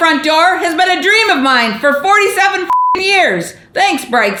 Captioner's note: beep